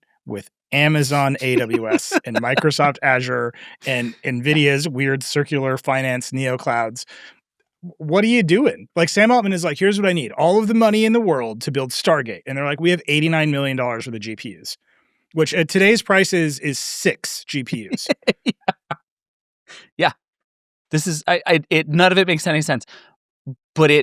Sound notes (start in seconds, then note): 18.1 laughs